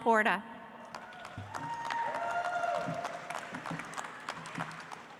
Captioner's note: audience applauds